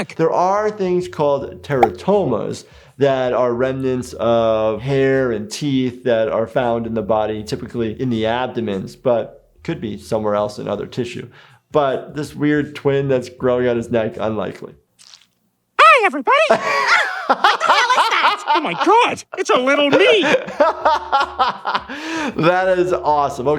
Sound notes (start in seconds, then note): 16.5 laughing; 19.9 laughs